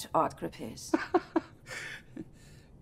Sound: laughing

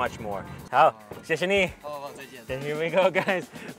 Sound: speaks in Chinese

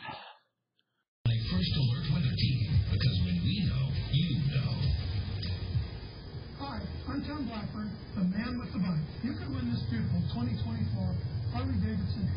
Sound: TV plays in background

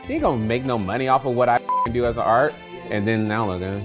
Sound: beep

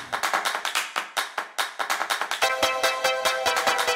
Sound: rhythmic clapping; upbeat music

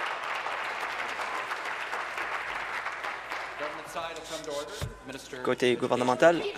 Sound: applause

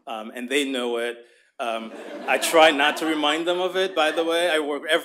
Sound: laughter

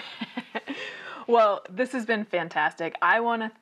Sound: laughs

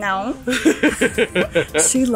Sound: laughs

